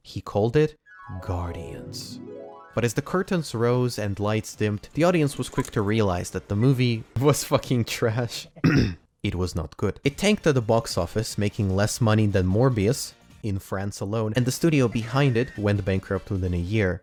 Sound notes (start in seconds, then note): 8.5 ehem